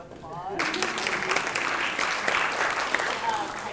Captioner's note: applause